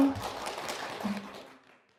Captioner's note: applause